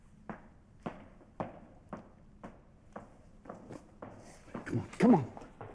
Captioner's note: footsteps departing